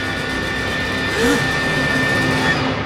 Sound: gasping

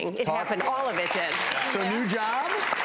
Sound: audience applause

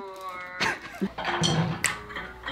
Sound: laugh

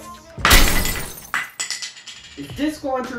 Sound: crash and shattering glass

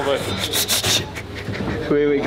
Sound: laugh

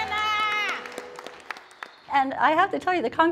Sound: woman ululating

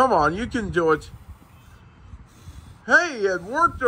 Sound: blowing air

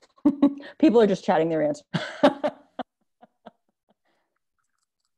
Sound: laughs

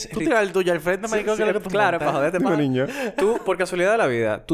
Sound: laughs

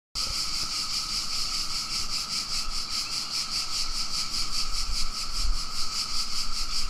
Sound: outdoor bugs buzz and chirping constantly

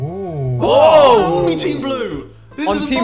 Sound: group oohing

